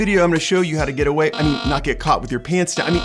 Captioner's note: loud buzzing